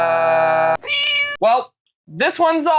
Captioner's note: meow